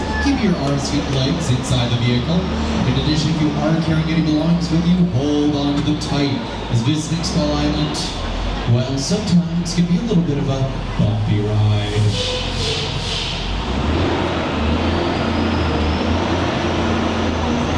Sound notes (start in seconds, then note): 14.0 engine revving